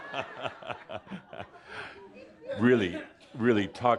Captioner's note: more laughter and Adamus chuckles